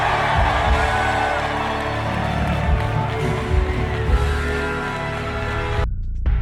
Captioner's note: crowd cheering and music playing